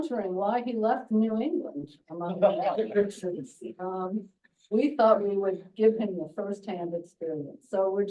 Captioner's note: laughs